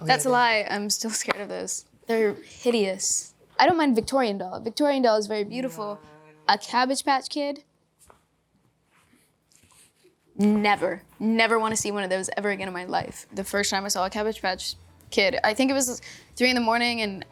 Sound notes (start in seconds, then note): none